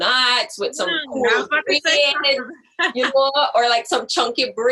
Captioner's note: laughs